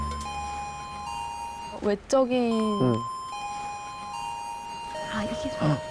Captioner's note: The bell rings to signal the end of the 10 MINUTE TALK